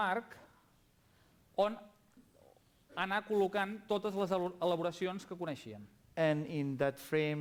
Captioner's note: non-english speech